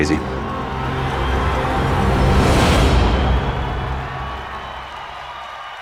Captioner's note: crowd cheering